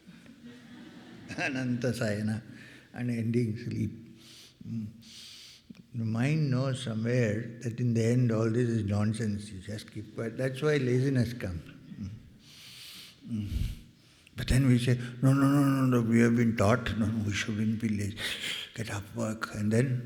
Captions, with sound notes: Anantha Shayanam - unending sleep. The mind knows somewhere that in the end all this is nonsense you just keep quiet that's why laziness comes [clears throat] but then we say no no no no no we have been taught no we shouldn't be lazy get up work and then